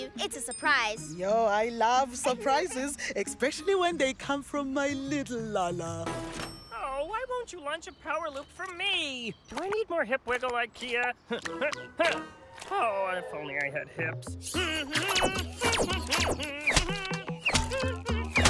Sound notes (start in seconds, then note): 14.4 humming